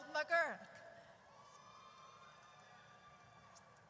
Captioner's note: audience cheers